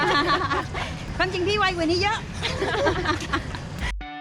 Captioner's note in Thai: เสียงหัวเราะ; หัวเราะ